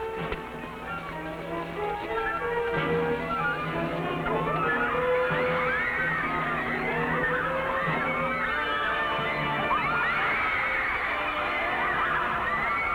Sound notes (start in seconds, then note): 0.2 thrilling music; 5.6 women screaming